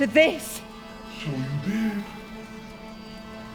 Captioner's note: Dracula's voice